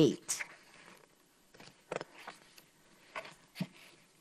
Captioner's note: paper rustles